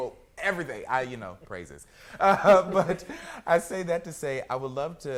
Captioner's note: laughs